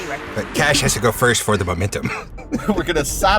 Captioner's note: chuckles